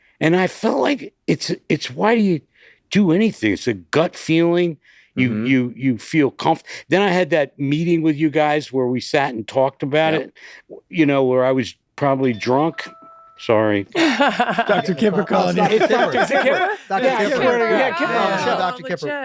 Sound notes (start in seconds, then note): 12.7 phone dings softly; 13.9 laughs loudly